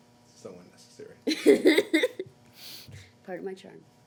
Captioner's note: laughing